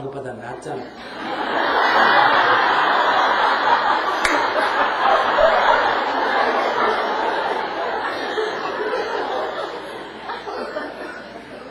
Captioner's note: audience Laughter